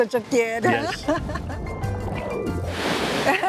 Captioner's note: laughs